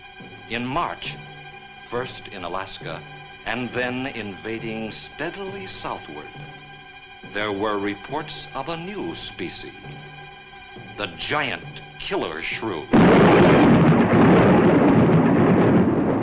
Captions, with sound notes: In March, first in Alaska, and then invading steadily southward, there were reports of a new species. The giant killer shrew. (thunder claps)